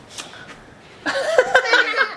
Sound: laughing

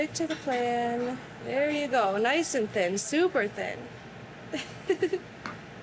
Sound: laughs

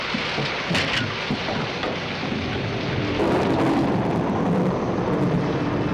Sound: thunder

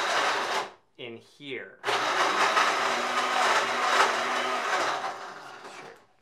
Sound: interrupted by strong blender noise; strong blender noise again

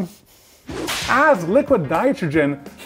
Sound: graphic slapping

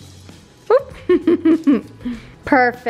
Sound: chuckles

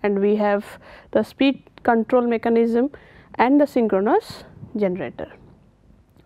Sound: wind Turbine

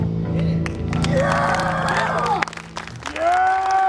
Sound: audience applauds

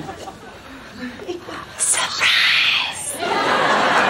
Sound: whispered

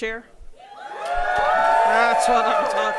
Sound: audience cheering

